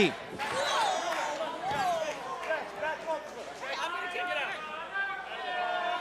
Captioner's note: crowd chatter